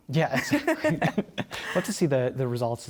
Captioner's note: laughter